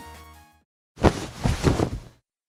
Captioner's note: ruffling of curtains